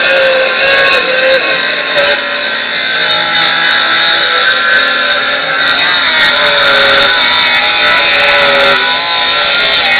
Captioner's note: sawing